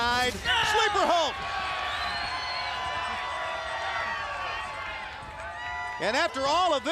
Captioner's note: applause